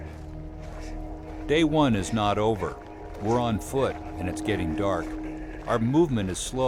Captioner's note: voiceover